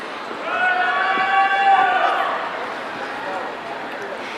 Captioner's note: audience cheering